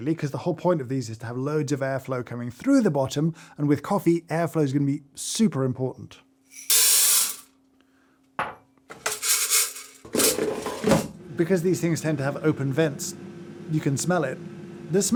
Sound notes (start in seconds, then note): 6.9 beans rattling